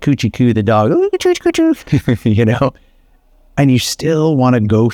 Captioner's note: chuckles